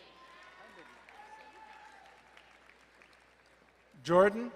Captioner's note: crowd cheering and applauding